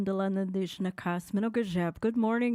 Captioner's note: speaking foreign language